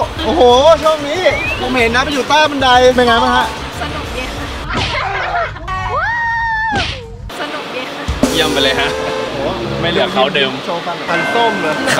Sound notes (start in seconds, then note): 4.6 laughs; 5.7 screams